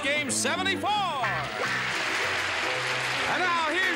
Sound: applauding

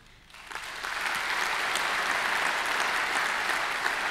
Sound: applause

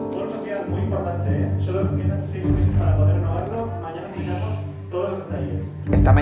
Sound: people chattering

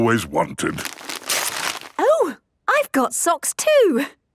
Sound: tearing

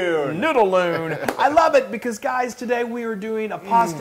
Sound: laugh

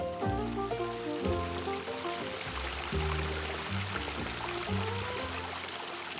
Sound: sound of a stream

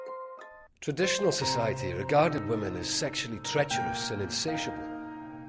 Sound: man's voice, off

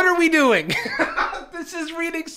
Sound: laughs

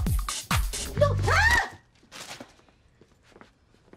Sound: Suzy screams

